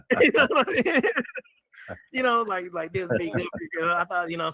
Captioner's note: laughing